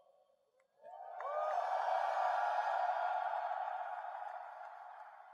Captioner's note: crowd